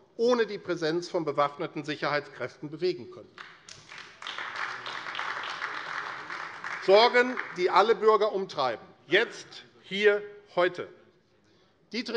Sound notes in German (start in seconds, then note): 3.3 Beifall AfD